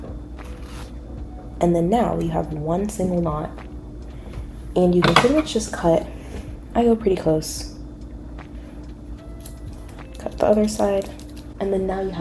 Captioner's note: scissor noises